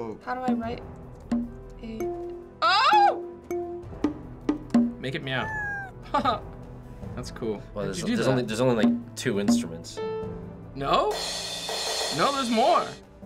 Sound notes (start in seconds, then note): 0.0 discordant piano music; 5.4 Bongo Cat meows; 5.5 chuckles; 11.2 cymbal crashing